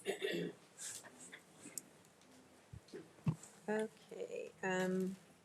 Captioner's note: speaker clears throat